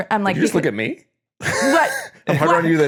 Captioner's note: laughing